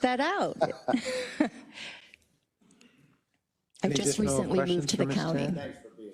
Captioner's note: laugh